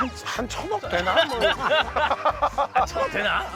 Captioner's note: laughs / lol